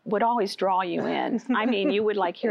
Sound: laughter

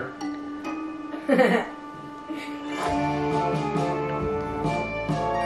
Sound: laughs

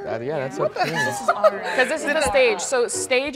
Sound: laughs

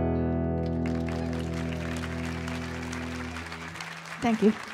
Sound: audience applauding and cheering

